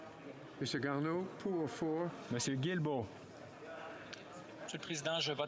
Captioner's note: speaking French